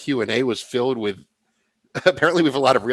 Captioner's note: laughter